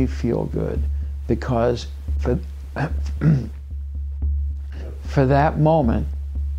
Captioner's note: clears throat